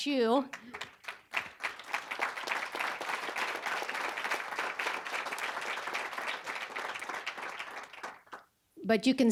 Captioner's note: applause